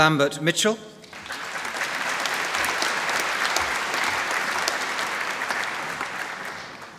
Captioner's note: applause